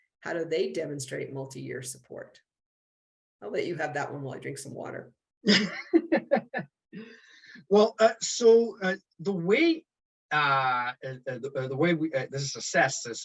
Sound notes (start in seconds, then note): 5.4 laughter